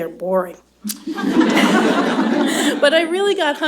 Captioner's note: laughter